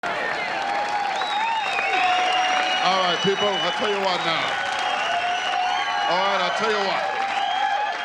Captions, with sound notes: (audience applause) - Alright people, I'll tell you what now. Alright, I'll tell you what.